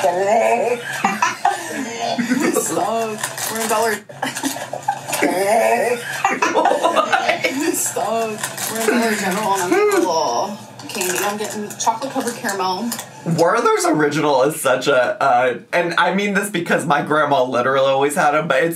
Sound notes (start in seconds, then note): 1.0 mom grunts; 4.7 laughs; 5.1 mom grunts